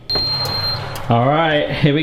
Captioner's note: oven beeps